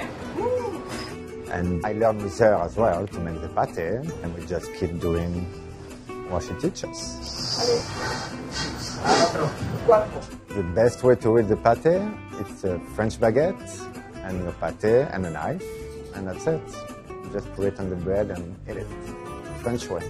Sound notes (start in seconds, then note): 7.4 conversing in French